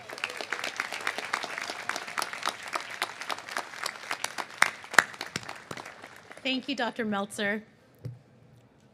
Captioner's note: cheers and applause